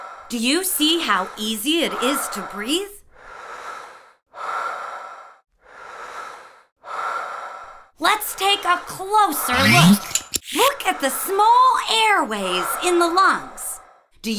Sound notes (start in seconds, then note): 4.7 sound of breathing